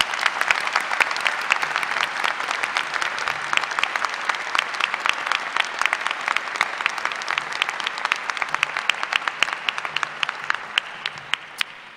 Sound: applause

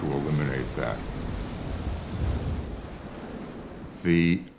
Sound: rain blowing

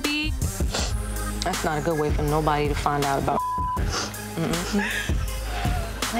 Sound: beep

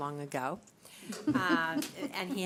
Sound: laughter

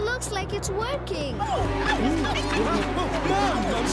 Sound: all shouting

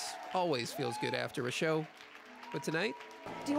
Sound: cheering and Applause

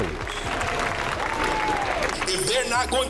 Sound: crowd clapping

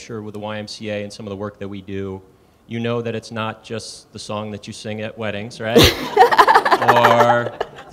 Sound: laughter

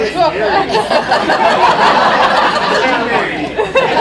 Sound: laughter

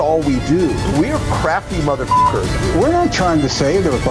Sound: beep

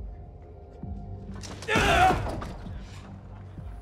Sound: shouting

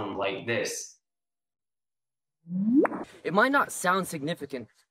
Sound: rising pitch followed by a pop

